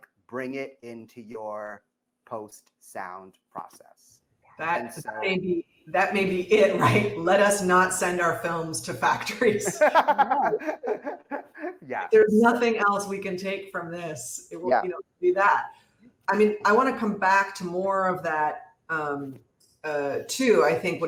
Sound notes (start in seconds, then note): 9.5 laughter